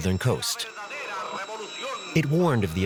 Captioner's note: radio chatter in Spanish